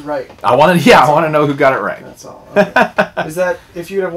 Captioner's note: laughter